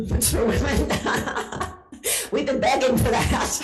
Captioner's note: laughing